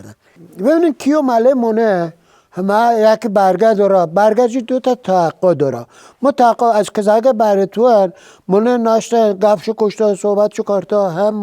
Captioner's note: speaking in Dari Persian language